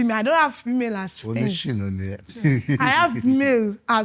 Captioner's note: laughs